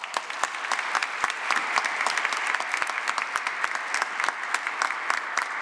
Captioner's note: applause